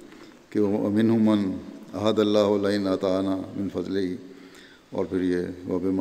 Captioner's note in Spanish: árabe